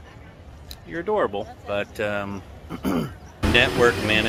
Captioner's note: clears throat